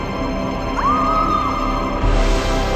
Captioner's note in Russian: А-а-а!